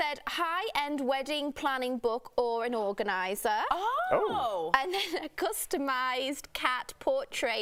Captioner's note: laughter